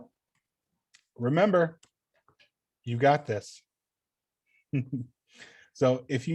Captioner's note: chuckles